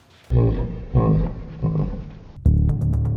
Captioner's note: laughing in slow motion; adventurous music